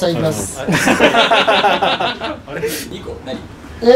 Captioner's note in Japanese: スタッフ 笑い